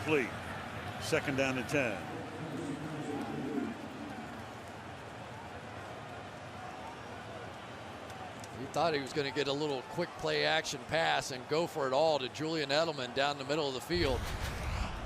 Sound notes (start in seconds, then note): 2.8 pa announcement